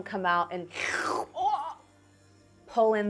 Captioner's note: slurping